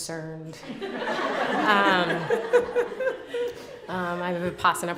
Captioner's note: laughter